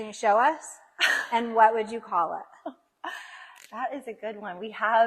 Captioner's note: laughs